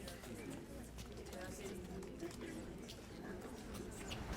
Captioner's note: background chatter